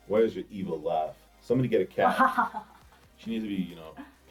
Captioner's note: laughs